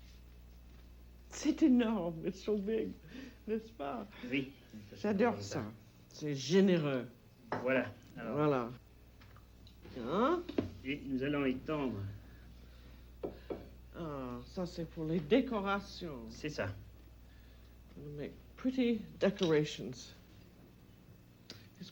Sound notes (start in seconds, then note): 1.2 speaking French; 4.5 speaking French; 10.8 speaking French